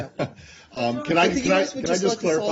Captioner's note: laughter